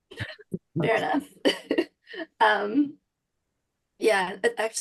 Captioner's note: chuckles